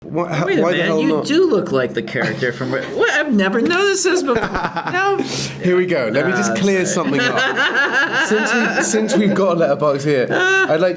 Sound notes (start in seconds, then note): 4.4 Josh laughs; 6.9 Rian laughs